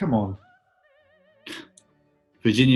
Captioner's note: chuckles